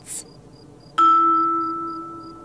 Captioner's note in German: Grillenzirpen